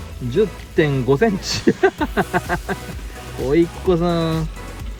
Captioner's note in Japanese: 笑い